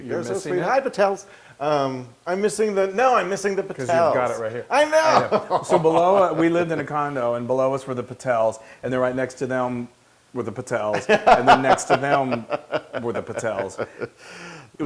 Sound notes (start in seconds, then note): 4.9 laugh